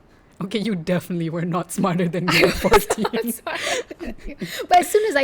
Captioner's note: laugh